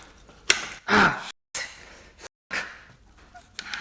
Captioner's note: expression of pain + bad words